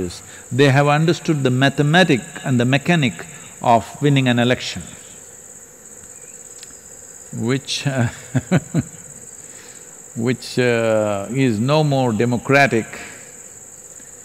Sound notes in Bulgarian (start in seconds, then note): 8.1 смях